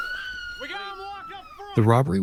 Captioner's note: people chattering; people yelling